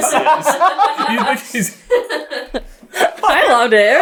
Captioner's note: laughter